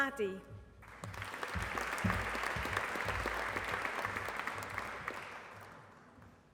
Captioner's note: applause